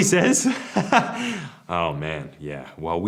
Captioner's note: laughs